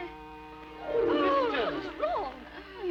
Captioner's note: Jane gasps